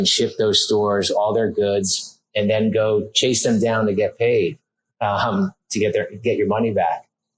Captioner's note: laughs